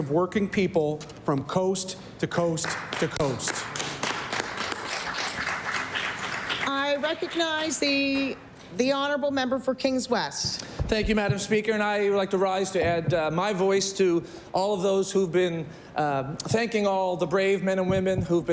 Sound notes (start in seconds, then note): 8.1 applause